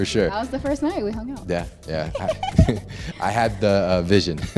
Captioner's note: laughs